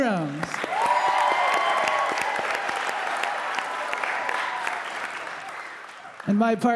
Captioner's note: audience applauding; audience cheering